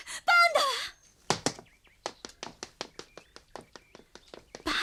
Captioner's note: SFX: footsteps